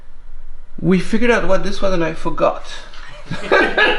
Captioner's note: laughter